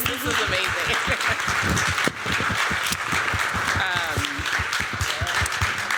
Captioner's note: applause